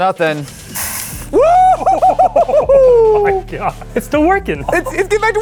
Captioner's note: cheering